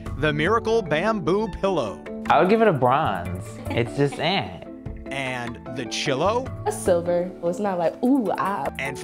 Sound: laughter

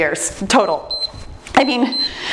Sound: timer beeps

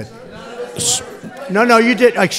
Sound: off-mic

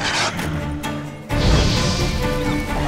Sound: flames whoosh

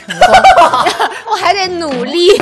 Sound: haha

